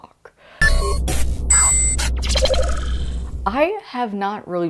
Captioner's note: futuristic Sounds